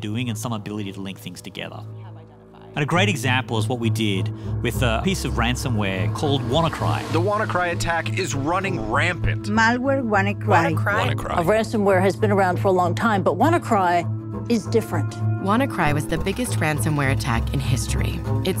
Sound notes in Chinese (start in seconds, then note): 9.5 記者 2 用西班牙語說話